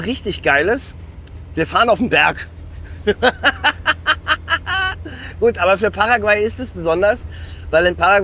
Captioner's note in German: gelächter